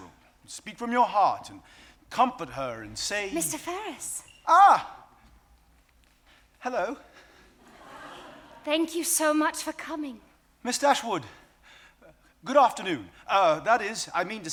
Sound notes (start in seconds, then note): 7.6 audience laughing